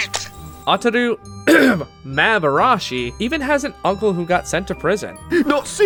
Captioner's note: clears throat